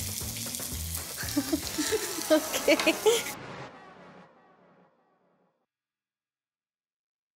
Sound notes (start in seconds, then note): 1.1 chuckles